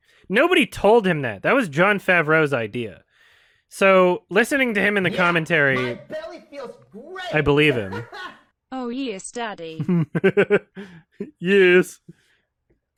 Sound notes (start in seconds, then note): 9.8 chuckles